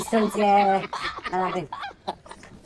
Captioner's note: laughter